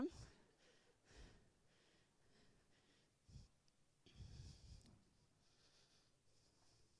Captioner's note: silence